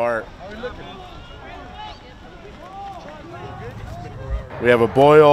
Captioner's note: yelling